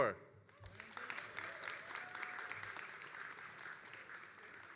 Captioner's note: all applauding